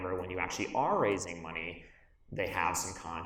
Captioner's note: none